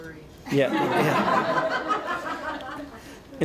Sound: laughter

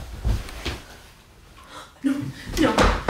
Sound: gasps

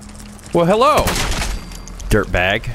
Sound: blam!

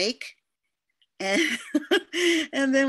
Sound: laughter

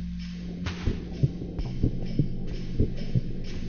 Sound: heartbeat

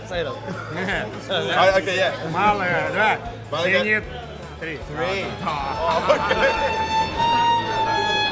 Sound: laughs

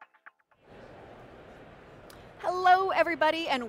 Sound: crowd chattering

